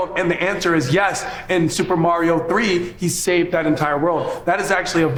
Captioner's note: none